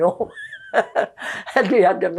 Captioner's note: laughing